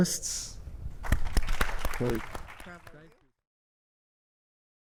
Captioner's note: audience clapping